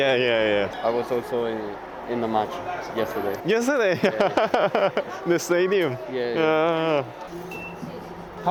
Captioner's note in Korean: 웃음